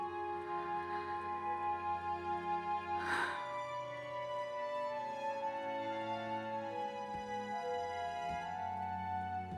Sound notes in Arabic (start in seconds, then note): 3.0 جوان تتنهد